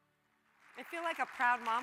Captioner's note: audience applauds